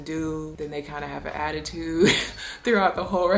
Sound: laughs

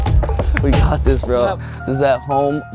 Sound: laughing

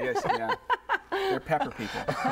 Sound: laughter

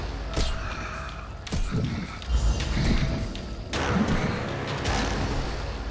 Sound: grunting

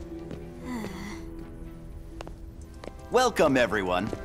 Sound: sighs

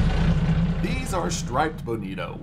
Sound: boat engine idling

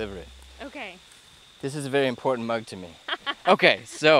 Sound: laughter

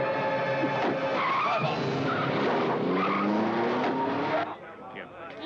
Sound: wheels screech; people chattering

